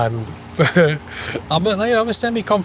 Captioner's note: nervous laugh